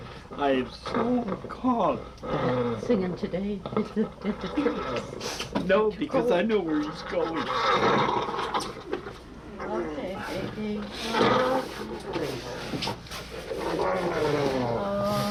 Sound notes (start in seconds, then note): 6.6 ragged Breathing Continues; 13.2 groans